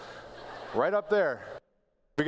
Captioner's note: laughter